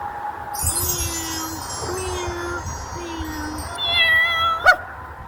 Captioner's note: various meowing and barking noises